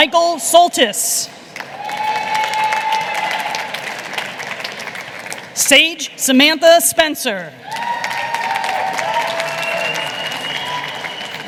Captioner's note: cheers and applause